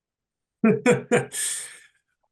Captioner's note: laughs